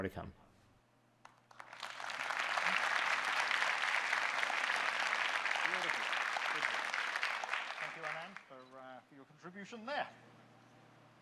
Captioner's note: audience clapping